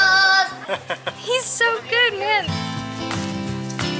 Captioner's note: laughter